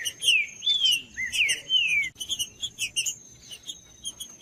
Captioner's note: trinca ferro cantando